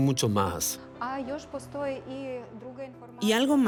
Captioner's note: Hablando idioma extranjero